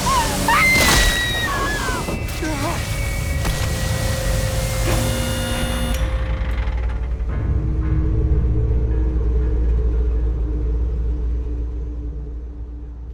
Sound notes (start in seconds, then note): 0.0 Christina screams; 0.1 body thumping; 5.4 machine whirring; 7.8 dark eerie music